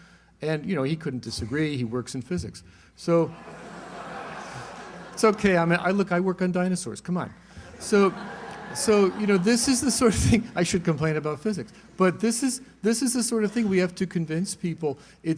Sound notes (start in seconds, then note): 3.3 laughter